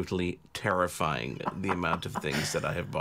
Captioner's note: laughs